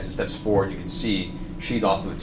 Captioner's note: none